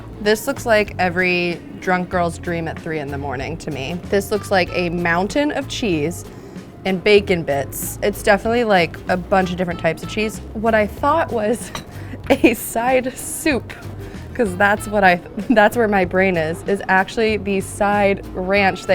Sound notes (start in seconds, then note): 12.4 laughs